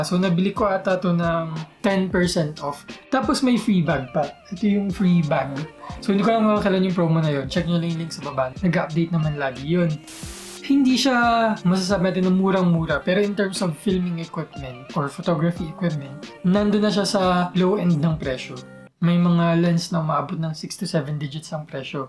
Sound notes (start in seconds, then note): 10.0 static sound